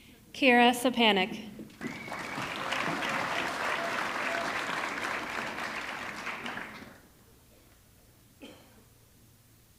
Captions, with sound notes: Kyra Szczepanek, (audience clapping) (audience cheering)